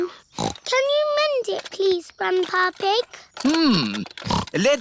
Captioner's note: snorts